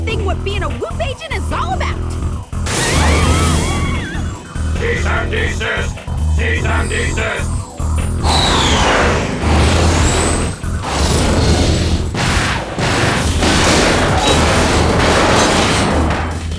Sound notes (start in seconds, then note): 7.8 yelling